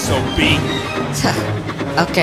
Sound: scoffs

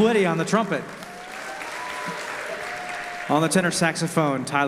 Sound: audience applause

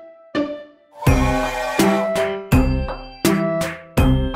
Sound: train toots

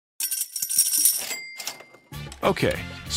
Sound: jingling; bell chimes

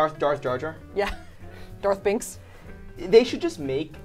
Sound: laughs

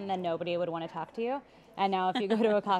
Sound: laughs

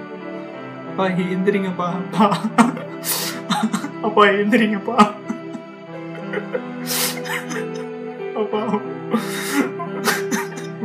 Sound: crying

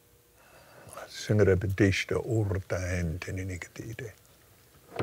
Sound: speaking in tongues

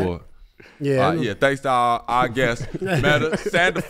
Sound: group laughs

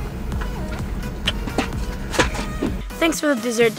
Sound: chewing

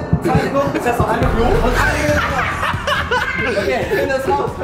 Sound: lachen

